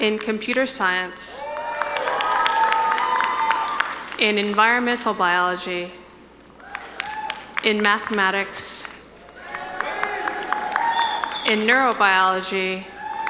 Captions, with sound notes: In Computer Science. (audience cheering) In Environmental Biology. In Mathematics. (audience cheering) In Neurobiology.